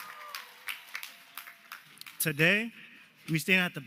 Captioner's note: cheers and applause